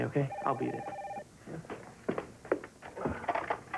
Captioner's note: telephone rings